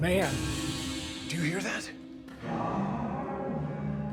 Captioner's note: metal rattles